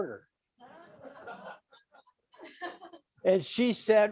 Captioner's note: audience laughs